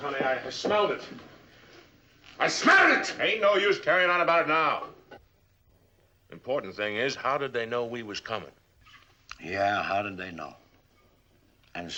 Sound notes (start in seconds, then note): 1.9 yelling